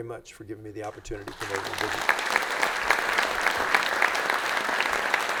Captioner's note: audience applauds